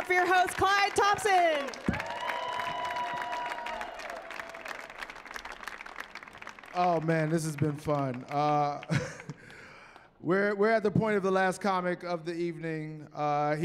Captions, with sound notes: give it up for your host Clyde Thompson! [cheering] - Oh man, this has been fun. We're at the point of the last comic of the evening.